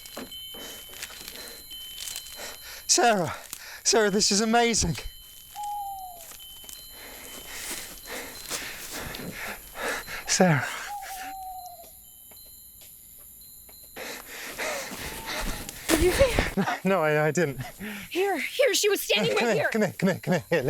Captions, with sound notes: (chimes ringing) Sarah. Sarah, this is amazing. (owl hooting) Sarah. (owl hooting) - Did you see her? - No, I didn't. - Here, here, she was standing right here. - Come in, come in, come in.